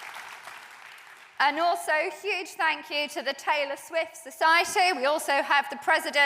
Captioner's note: applause